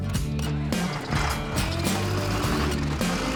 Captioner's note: engine starts